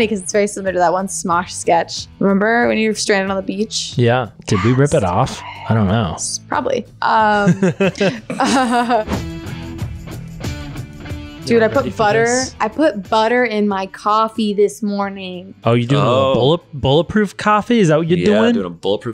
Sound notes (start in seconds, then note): 7.2 laughing; 9.6 rock music